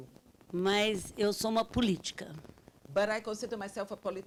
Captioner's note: speaking Portuguese